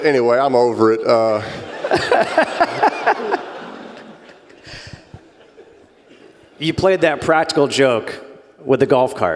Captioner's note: laugh